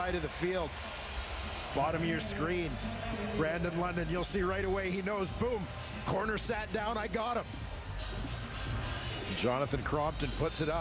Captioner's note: cheers, applause